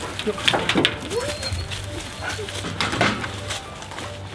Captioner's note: dog whining